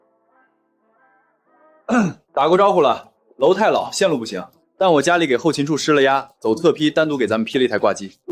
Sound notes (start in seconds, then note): 1.9 cough